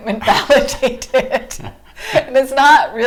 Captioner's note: laughing